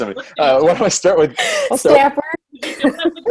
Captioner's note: all laugh